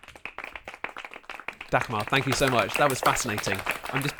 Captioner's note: applause